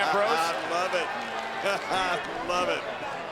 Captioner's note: laughs